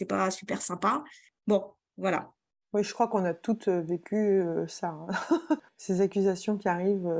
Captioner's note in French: rires